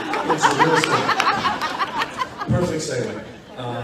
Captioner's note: audience laughs loudly